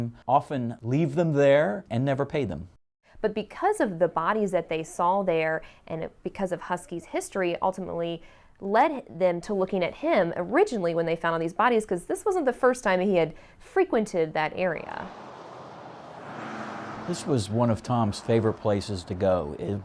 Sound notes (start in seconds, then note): 14.8 cars driving